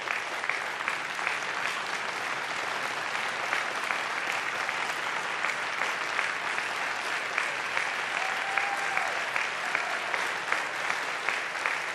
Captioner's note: applause